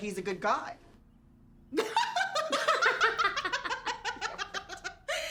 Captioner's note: laughing